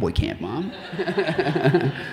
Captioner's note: audience laughing